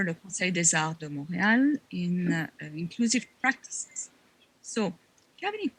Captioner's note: speaking French